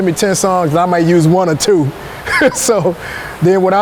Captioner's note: laughing